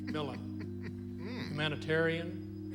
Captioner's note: crying